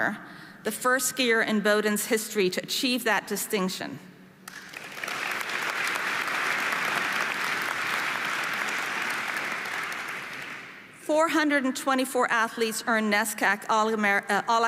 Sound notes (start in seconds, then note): 4.4 audience applauding